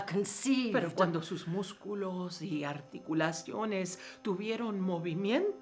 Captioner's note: speaking in foreign language